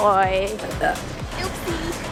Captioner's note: burp